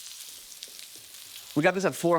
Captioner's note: meat sizzling